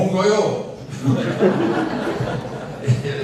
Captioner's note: 웃음; laughs